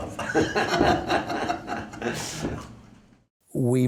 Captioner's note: laughing